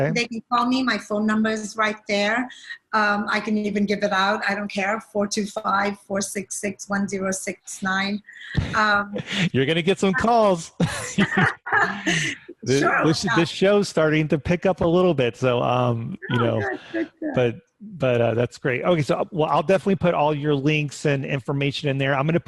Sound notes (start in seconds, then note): 10.7 laughing